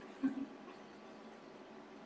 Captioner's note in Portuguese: risos